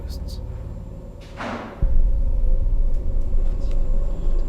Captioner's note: object bangs